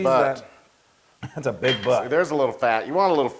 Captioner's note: laugh